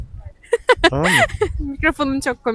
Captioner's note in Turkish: kahkaha